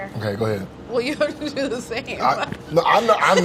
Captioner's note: laughs